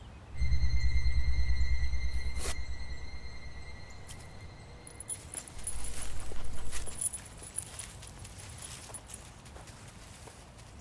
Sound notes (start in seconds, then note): 2.4 tape peeling sound; 7.8 leash jingles